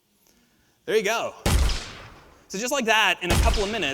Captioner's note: gun fires